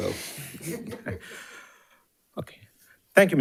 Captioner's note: audience and participants laughing